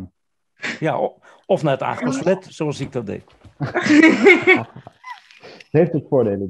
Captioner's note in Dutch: gelach